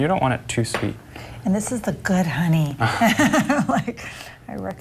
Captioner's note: laughing